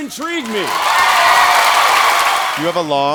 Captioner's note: cheering and applause